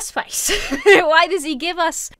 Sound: laughs

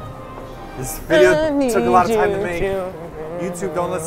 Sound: hums

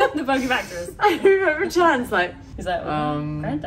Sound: laughs

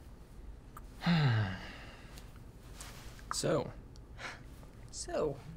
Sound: sighs

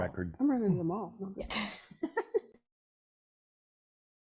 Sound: laughs

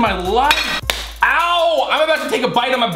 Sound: slapping

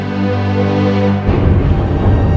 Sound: thunderous crash

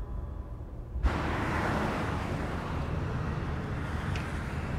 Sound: cars driving

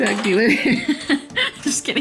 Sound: laughter

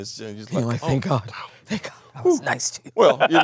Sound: laughs

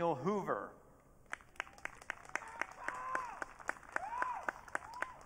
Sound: audience cheering

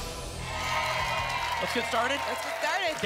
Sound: applause and cheering

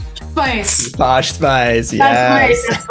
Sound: ding sound

